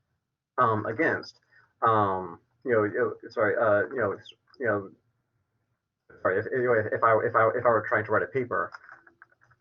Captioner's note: verbal stutters